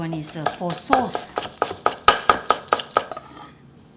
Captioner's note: chopping